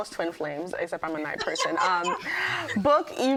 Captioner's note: laughing